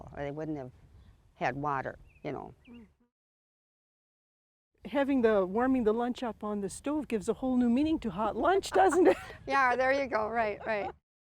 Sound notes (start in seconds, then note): 8.6 laughs